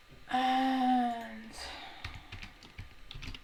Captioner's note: sighs softly